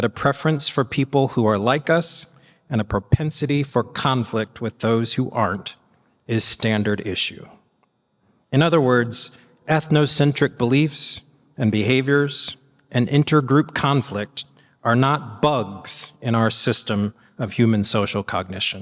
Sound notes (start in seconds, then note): none